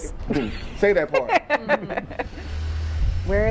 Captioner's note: laughs